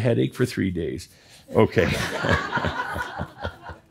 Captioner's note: laughter